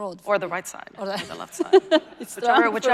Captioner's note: laughing